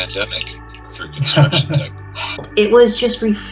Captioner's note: participants laugh